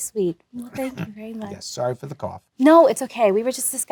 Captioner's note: coughs